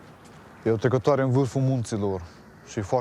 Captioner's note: speaking romanian